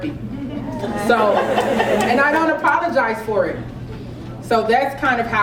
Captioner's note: laugh